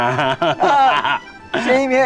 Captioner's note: laughing